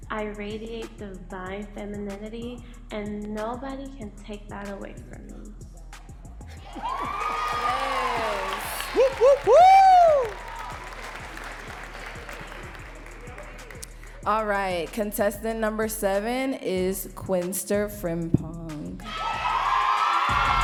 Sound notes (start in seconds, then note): 6.6 audience cheering and clapping; 9.2 whooping